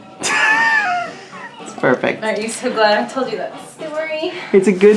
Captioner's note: laughs